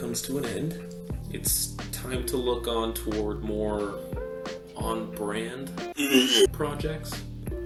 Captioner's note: intense vomiting